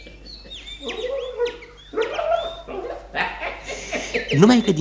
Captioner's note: chirping of canaries